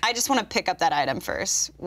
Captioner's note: none